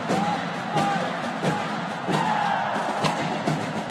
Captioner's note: applause